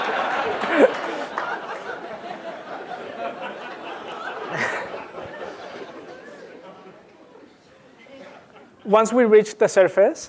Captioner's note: laugh